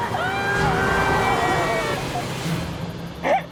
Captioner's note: screaming; horn blaring